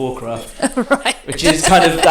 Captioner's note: laughs